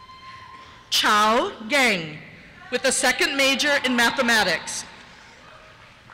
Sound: cheers

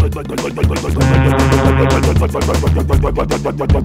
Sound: loud horn

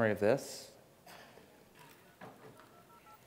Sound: pshhhkkkkkrrrrkakingkakingkakingtshchchchchchchchchdingdingding

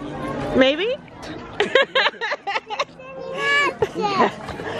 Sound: laughs

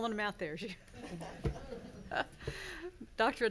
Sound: people laughing

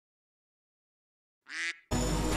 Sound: quack

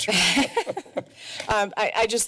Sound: laughs

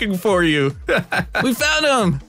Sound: laughs

